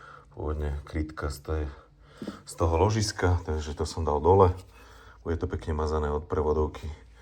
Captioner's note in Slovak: smrkanie